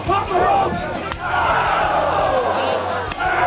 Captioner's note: crowd exclaiming